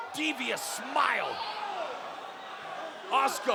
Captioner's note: crowd exclaims